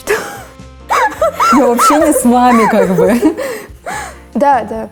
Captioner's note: laughing